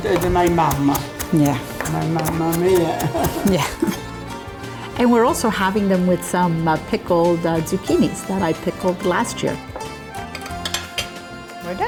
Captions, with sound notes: - Yeah. (both laugh) And we're also having them with some pickled zucchinis that I pickled last year. (light music)